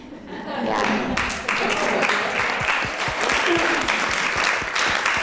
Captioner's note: applause